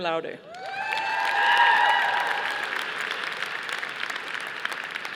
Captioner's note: audience applauding